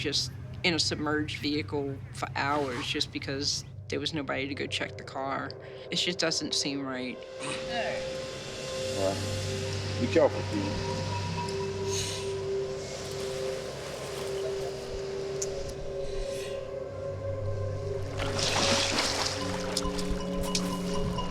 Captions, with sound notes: just in a submerged vehicle for hours just because there was nobody to go check the car. It just doesn't seem right. All right. Well, be careful, Keeley. [inhales oxygen] [inhales oxygen] [suspenseful music]